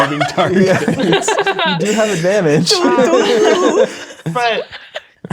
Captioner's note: players laughing